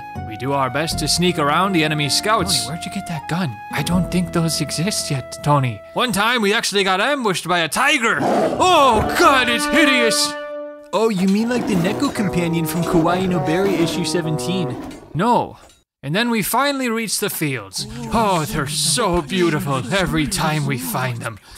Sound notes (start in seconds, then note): 2.7 whispering; 8.2 tiger growling